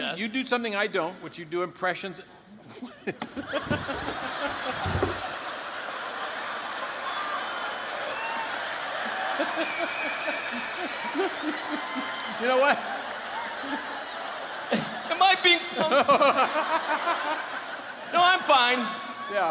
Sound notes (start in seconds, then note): 3.2 laughs; 5.7 audience laughing; 16.1 laughter